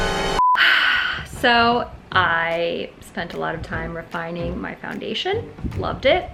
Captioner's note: dramatic musical sting; sighs